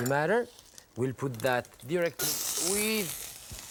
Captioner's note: sizzling